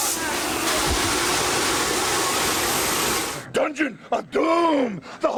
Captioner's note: fire hissing